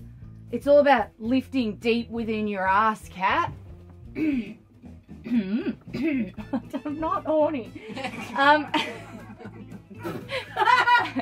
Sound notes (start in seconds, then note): 5.2 strains; 7.8 laughter; 7.8 laughs